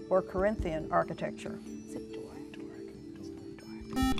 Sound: whispering

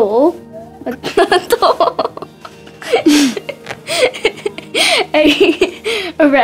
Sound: both laughing

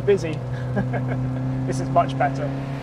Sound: chuckles

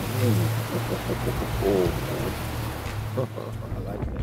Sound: Tony laughs

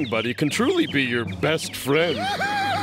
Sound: laughing

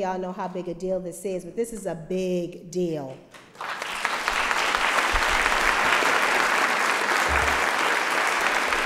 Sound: applause

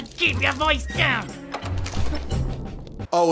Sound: door opens

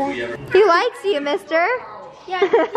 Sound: laughs

